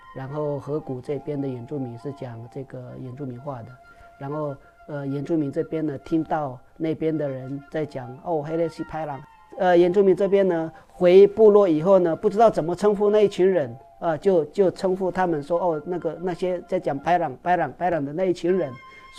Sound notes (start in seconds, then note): 8.1 bad people in Hokkien; 17.0 bad people in Hokkien